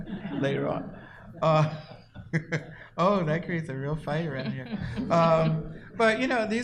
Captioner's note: laughs